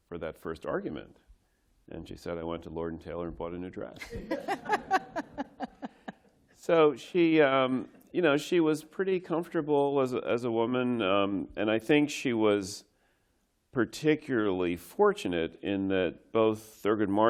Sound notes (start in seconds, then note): 3.9 laughter